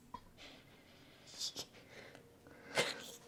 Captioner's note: Sky choking back tears